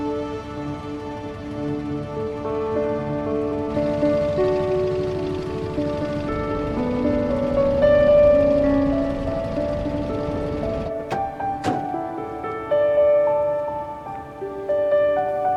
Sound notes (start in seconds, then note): 10.8 door banging